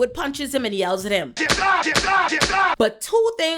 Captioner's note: gunshots